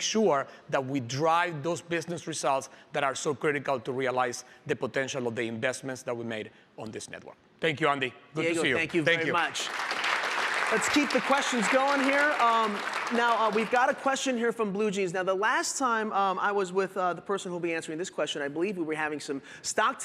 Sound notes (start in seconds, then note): 9.2 applause